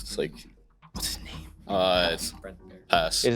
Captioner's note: whispering